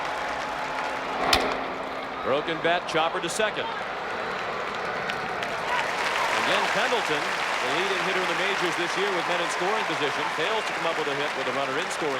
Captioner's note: applause